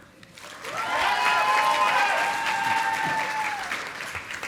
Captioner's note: audience applauding